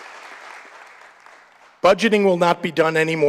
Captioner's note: applause